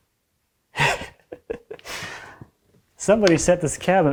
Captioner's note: laughs